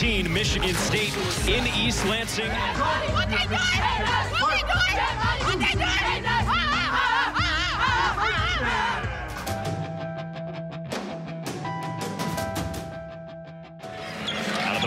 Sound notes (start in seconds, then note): 2.8 cheers; 10.2 upbeat music